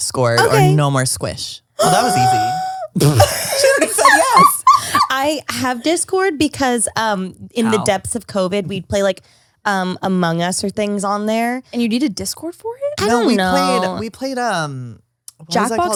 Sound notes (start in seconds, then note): 1.8 gasps